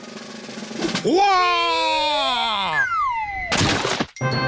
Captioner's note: exclaims